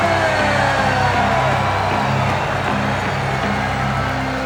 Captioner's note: crowd cheering